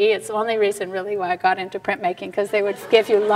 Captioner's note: audience laughs